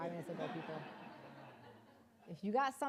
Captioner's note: audience laughing